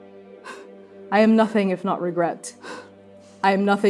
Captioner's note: breathing heavily; breathing heavily